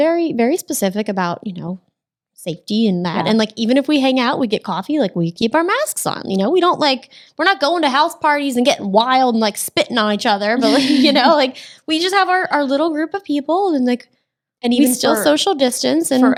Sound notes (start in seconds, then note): 10.6 ladies laughing